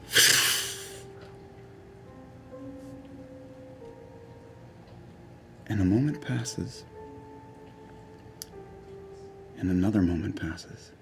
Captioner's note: fluttering noise